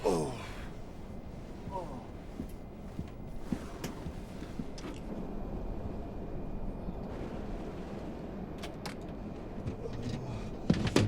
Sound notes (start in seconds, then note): 2.8 footstep